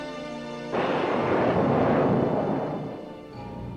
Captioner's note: thunder rumbles